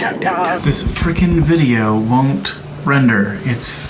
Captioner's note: tapping on monitor